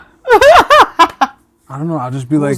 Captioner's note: laughing